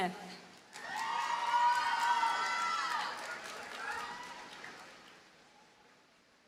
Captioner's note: audience cheers and applauds